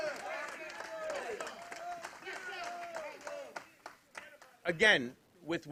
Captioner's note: applause